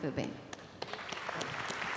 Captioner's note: applause